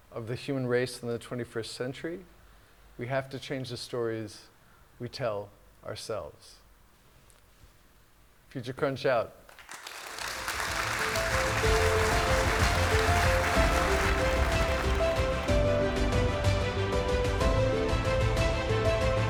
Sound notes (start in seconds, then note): 9.5 audience Clapping